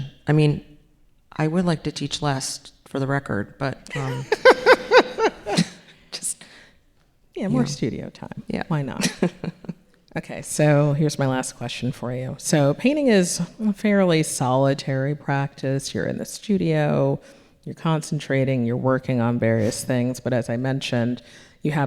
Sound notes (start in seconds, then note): 3.9 audience laughing; 6.4 chuckles; 8.9 laughing